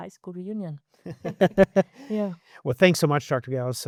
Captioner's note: laughing